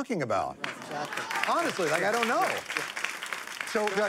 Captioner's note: applause